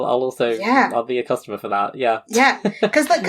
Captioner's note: laughs